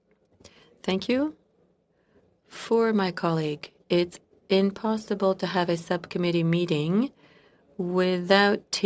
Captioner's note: speaking French